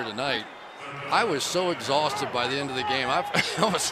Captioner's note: laughs